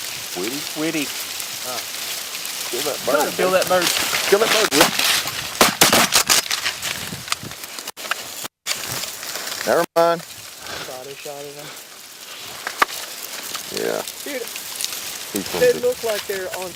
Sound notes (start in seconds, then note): 3.9 gun shots